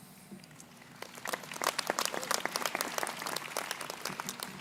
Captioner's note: crowd applauding